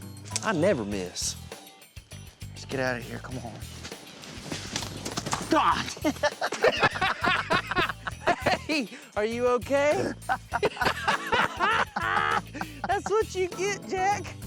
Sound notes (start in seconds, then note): 5.6 both laughing; 10.0 both laughing